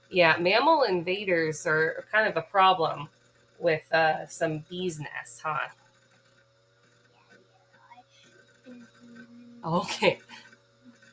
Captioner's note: Mimzy buzzing